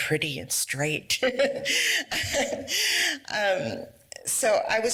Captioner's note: laughs